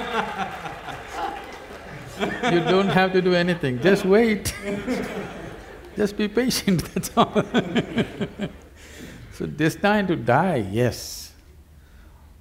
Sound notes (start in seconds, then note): 0.0 laughter/Applause; 8.2 laughs